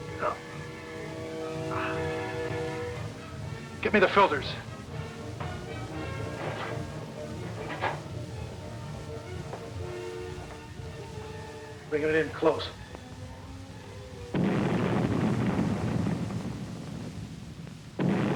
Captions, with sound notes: - No. Get me the filters. (tense instrumental music) Bring it in close. (explosions booming)